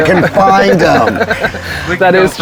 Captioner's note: both laughing